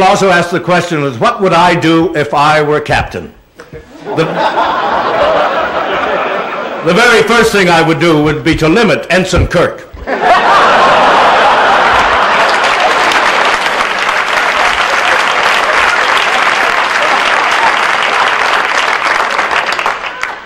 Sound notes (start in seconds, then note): 3.7 laughter; 10.0 laughter and applause